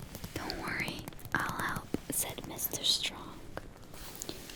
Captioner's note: taps